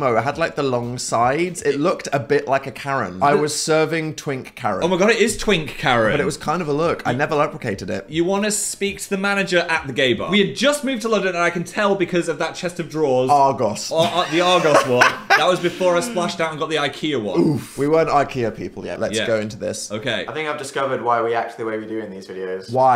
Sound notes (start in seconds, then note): 14.0 laughs